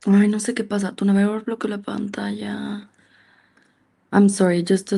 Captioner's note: speaks in Spanish